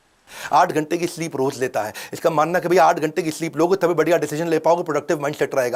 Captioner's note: speaking in foreign language